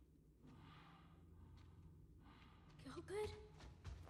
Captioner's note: heavy breaths